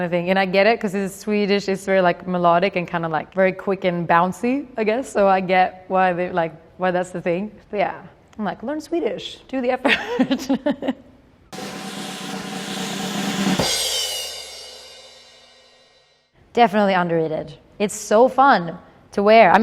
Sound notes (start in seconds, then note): 10.9 laughing; 11.5 drumroll